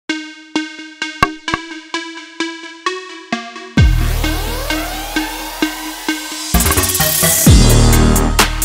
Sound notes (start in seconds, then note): 0.0 upbeat music; 1.2 tapping on table sound; 2.0 upbeat music